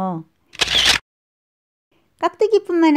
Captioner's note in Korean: 찰칵